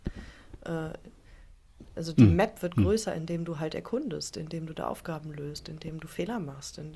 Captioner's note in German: räuspern